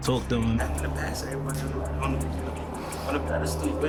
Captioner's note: indistinct conversation